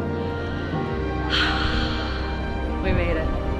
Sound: sighs

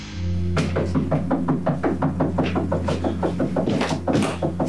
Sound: incessant knocking

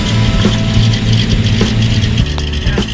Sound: engine

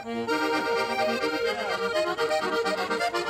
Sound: laughing; accordion music

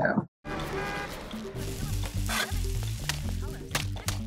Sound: pan sizzles

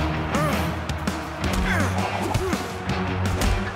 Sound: grunting

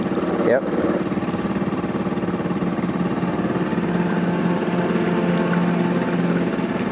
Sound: engine droning; somber music

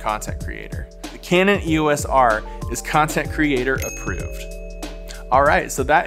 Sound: ding

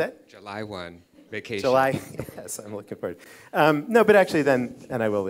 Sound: laughs

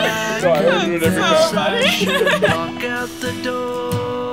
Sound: laughs

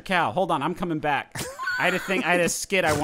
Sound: laughing

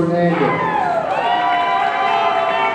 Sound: audience cheering

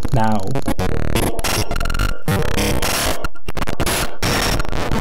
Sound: virus stuttering

